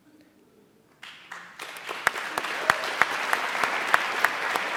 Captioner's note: applauding